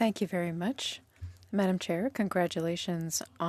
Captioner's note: speaking French